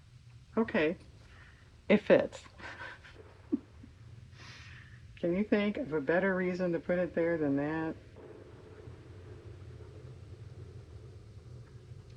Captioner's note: laughs